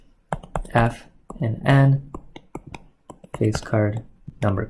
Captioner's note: keyboard clicking